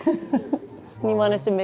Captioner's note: laughs